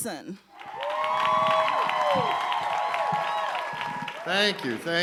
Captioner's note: audience cheering and applauding